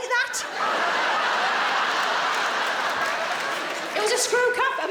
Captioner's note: audience laughs